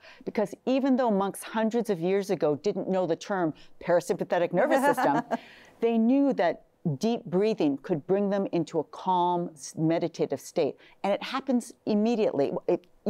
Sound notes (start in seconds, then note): 4.6 laughs